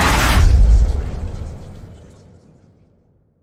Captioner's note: show theme music; exploding